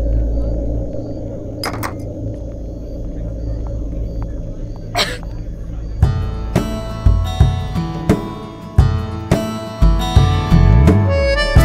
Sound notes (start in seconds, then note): 1.6 glasses clinking; 4.9 Bani coughs